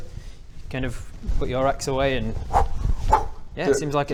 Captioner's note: whhr whhr